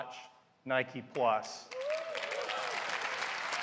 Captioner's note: applause